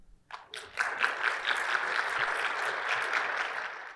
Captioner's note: audience clapping